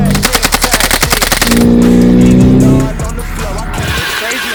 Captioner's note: gun shots continue